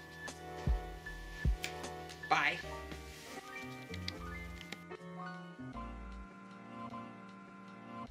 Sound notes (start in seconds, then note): 4.5 clicking